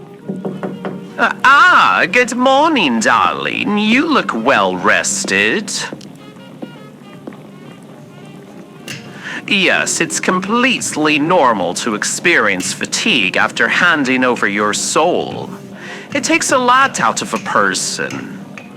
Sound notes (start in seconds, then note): 0.2 listener knocks on the open door fx; 8.7 rolling dough fx